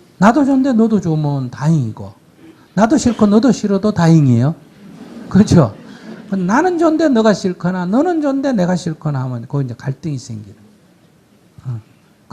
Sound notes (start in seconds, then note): 4.7 audience Laughter